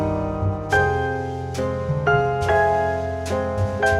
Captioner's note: none